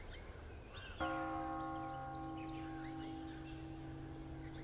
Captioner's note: bell tolls